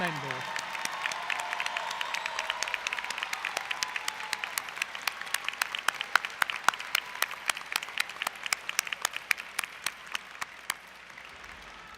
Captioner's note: applause & Cheering